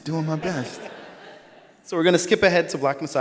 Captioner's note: all laugh